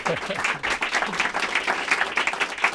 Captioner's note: applause